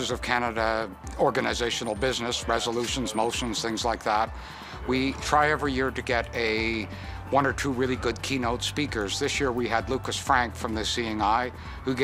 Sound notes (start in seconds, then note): none